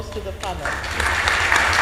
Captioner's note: audience applauds